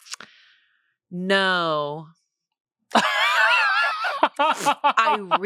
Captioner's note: laughs